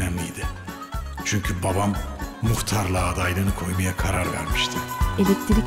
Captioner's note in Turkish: Ahmet dış ses